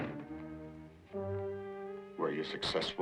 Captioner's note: door clicks